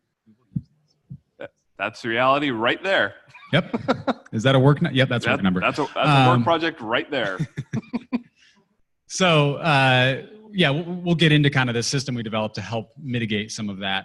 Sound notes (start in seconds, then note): 7.2 laughter